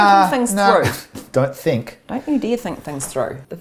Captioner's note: chuckles